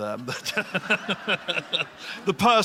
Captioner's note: laughter